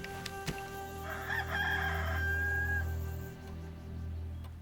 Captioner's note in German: Hahn kräht